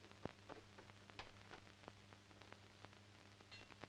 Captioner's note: door opens